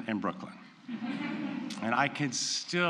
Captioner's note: laughter